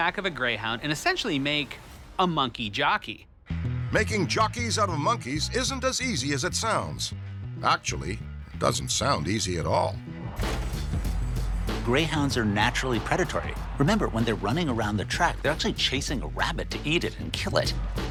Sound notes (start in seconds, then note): 9.8 gates clicking; 9.8 tense music